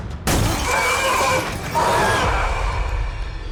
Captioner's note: growling